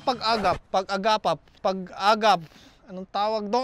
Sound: stutters

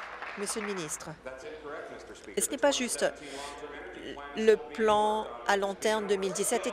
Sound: applause

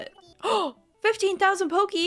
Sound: gasp

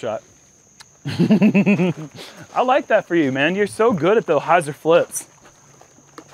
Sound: laughs

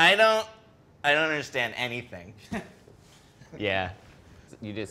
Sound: laughs

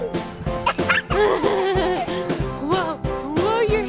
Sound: laughing

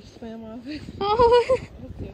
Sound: laughs

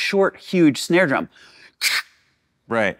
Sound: huffs

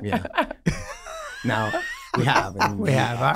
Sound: all laughing

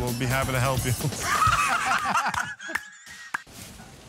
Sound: laughing

